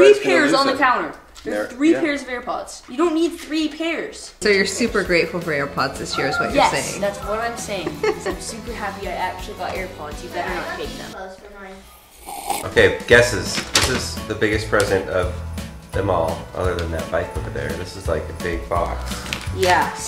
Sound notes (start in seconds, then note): 11.8 loud sipping